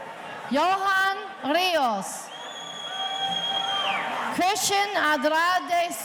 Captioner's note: audience cheering